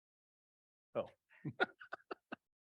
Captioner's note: laughter